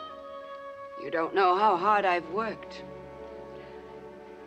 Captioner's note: none